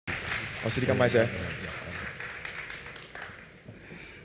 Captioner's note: applause